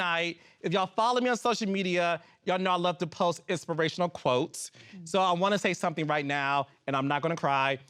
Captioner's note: none